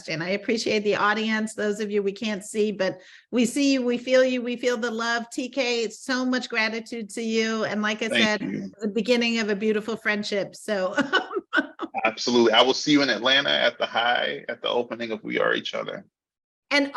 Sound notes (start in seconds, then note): 11.0 laughing